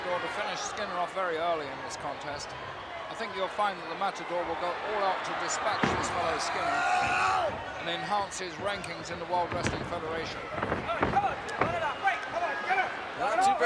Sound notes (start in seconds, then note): 11.0 footsteps plodding; 13.0 hands thudding